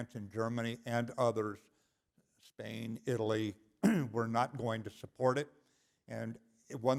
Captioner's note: cough